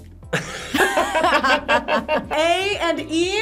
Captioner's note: group laughs